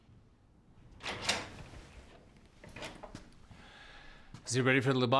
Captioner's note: door clicks